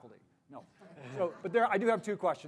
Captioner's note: audience laughing